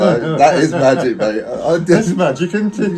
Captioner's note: laughing